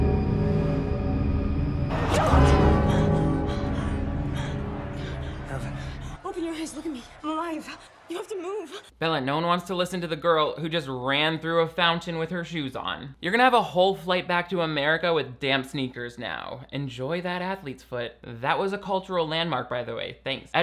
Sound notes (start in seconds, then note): 0.0 dramatic music; 2.5 clock bell chimes; 2.8 Bella panting